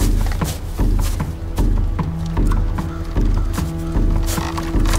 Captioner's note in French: croassement